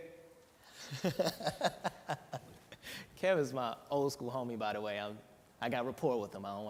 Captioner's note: laughs